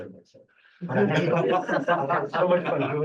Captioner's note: group laughing